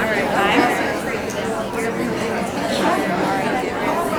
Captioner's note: audience chattering